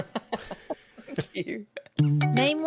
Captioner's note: laughs